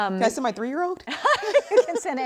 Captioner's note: laughter